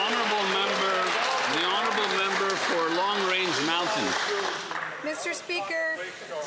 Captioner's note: some Applause